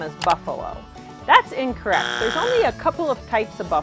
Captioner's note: buzzer buzzes